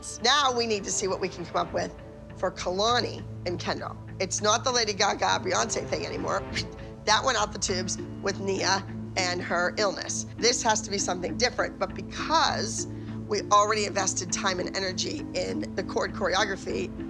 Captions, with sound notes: Now we need to see what we can come up with for Kalani and Kendall. It's not the Lady Gaga-Beyoncé thing anymore. [whoosh] That went out the tubes with Nia and her illness. This has to be something different. But because we already invested time and energy in the cord choreography,